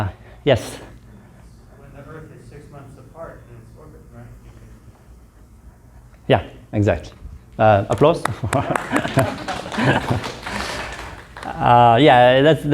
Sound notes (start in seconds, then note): 7.8 applause